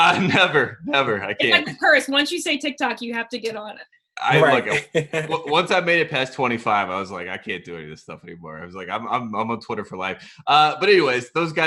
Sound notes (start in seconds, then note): 0.0 laughing; 4.2 laughs; 5.0 stammers